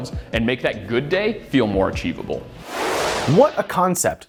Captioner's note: frame whooshing